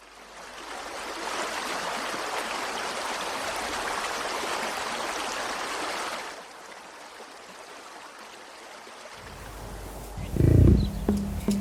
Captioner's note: nature sounds